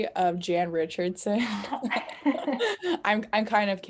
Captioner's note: laughing